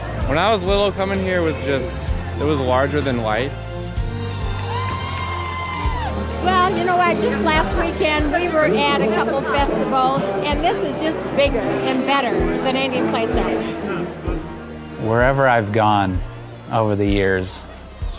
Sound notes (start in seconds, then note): 4.1 cheering